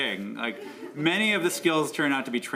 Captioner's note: laughter